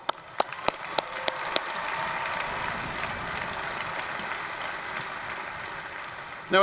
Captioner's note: applause, cheering